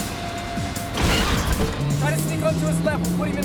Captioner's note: cars crash